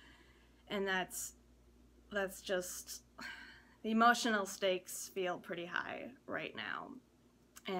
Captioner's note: sigh